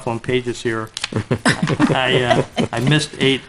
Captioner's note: trustees laughs